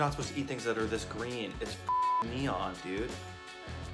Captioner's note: beep